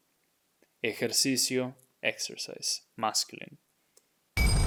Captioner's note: speaking in Spanish